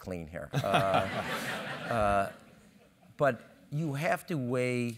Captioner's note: laugh